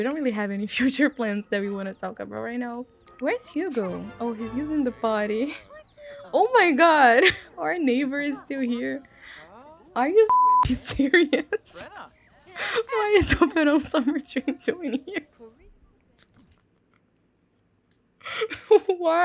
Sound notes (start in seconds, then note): 14.1 laughing